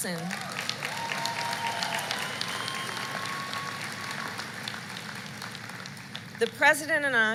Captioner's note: applause